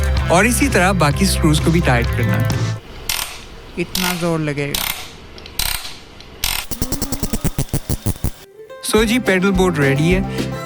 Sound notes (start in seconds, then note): 3.9 sound of screw tightening